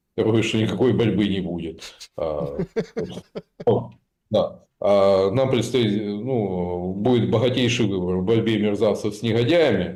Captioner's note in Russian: смех